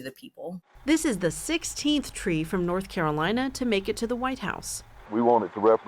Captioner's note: voice-over